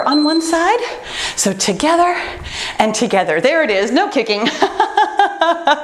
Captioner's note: laughs